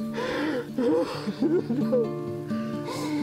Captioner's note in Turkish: Ağlıyor